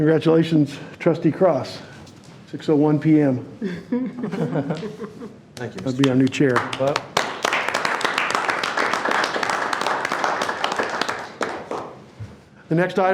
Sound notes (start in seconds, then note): 7.9 board members clapping